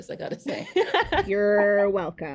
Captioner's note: laughing